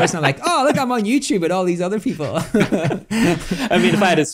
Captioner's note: laughs